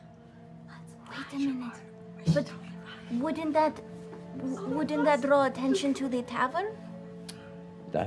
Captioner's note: gasps